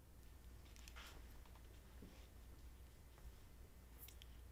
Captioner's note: sounds of squishing clay